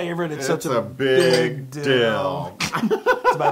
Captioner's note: laugh